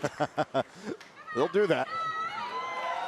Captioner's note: laughter